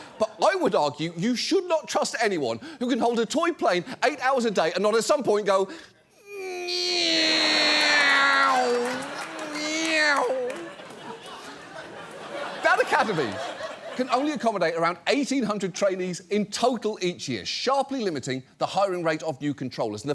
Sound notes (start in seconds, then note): 6.2 mimicking plane sounds; 8.6 studio audience laughs